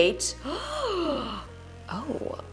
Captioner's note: gasps